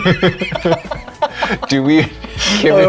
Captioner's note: laughing